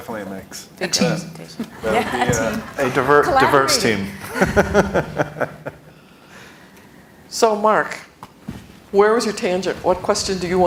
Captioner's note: laughter